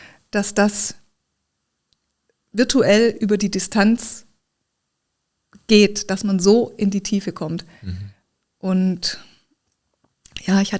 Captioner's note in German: räuspern